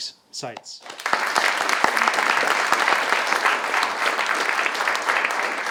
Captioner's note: everyone applauding